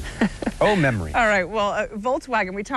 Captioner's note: laughter